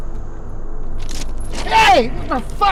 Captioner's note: chain rattling